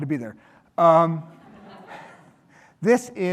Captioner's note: audience laughing